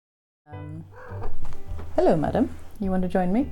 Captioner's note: cat trills off screen